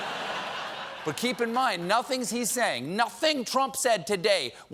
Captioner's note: laughter